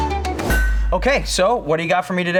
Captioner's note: heavy metal clank